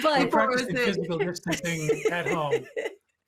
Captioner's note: laughing